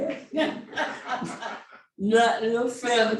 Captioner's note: laughing